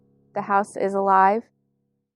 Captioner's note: voice over, female